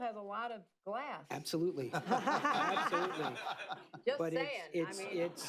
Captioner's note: laughter